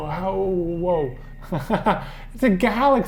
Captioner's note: laughs